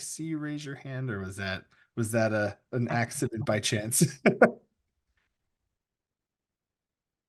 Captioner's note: laughs